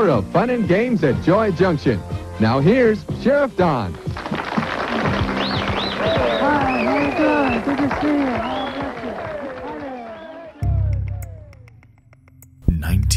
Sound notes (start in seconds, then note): 3.8 people clapping; 10.6 tense music